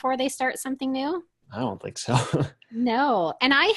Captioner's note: laughs